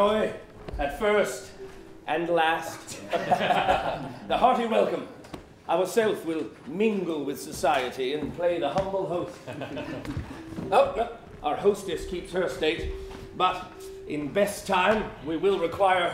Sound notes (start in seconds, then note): 3.1 laughter